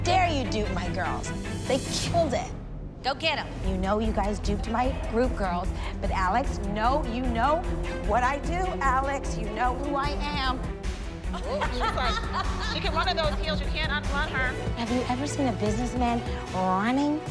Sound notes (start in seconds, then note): 11.3 laughing